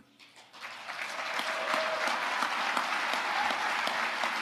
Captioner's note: audience applauding